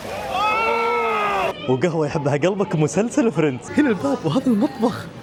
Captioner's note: screaming